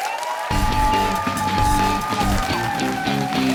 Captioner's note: cheers and applause